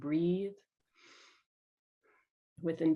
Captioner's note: inhales